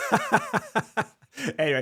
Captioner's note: laughs